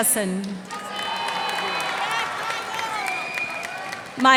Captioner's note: cheers and applause